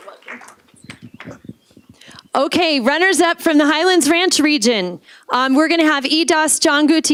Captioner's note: applause